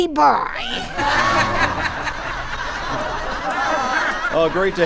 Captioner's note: audience laughs, knowingly